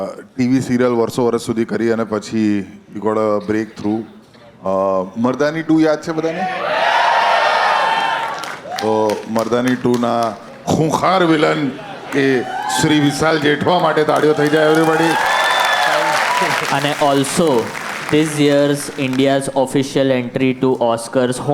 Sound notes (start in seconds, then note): 7.3 crowd applauding; 15.2 crowd applauding